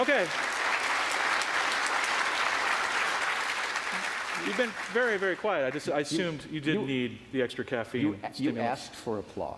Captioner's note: applause